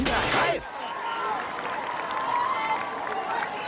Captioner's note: crowd cheering